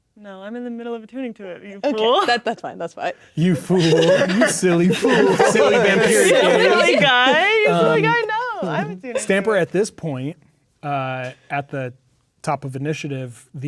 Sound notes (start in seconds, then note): 3.4 players laughing